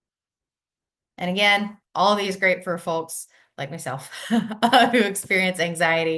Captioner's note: laughs